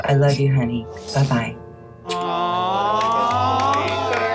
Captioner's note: collective aw